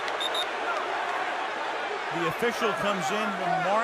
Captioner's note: whistle